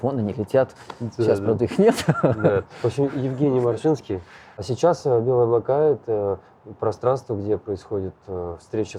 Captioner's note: laugh